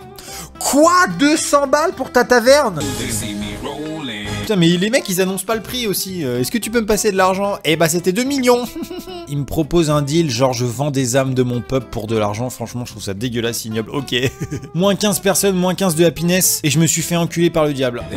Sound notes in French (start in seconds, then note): 8.5 rire moqueur; 14.2 rires